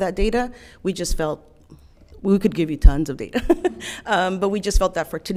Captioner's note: chuckles